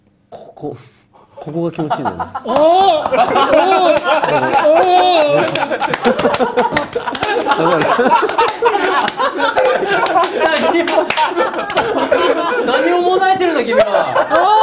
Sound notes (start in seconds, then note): 2.4 aaaahhhh!; 5.9 laughter